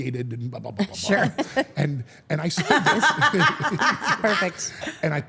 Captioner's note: Steph and Elyse laugh